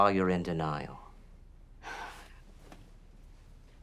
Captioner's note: sighs